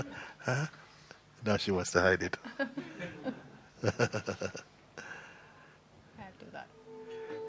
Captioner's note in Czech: smích